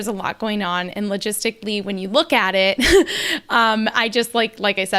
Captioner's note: laughs